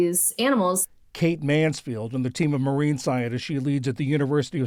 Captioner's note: voice-over